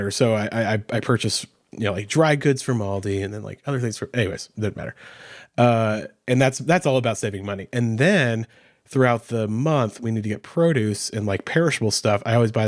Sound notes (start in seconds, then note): none